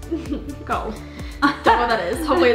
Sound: laughs

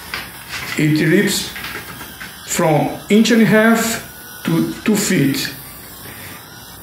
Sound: circular saw noise

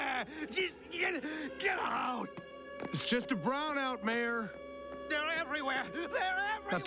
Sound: gasp gs

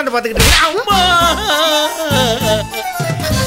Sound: crying

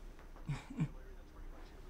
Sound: Efosa laughs

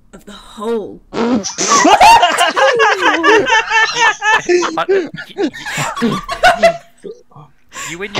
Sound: laughter

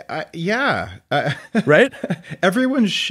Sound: laughing

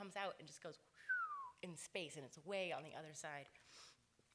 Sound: makes a whooshing whistle noise

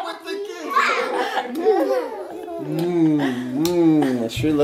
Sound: lips kiss

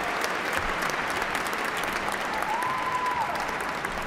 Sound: cheers and applause

